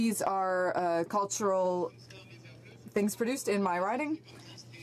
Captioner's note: speaking French